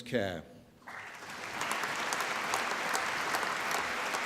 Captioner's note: applause